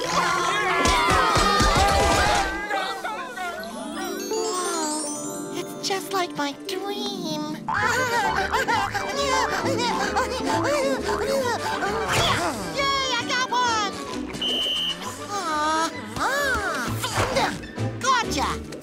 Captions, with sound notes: [screaming] Wow. It's just like my dream. [giggling] Yay! I got one! [whistle blowing] Aw... ah! Gotcha!